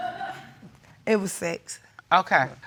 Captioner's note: audience laughing